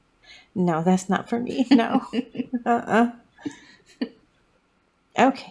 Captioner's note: laugh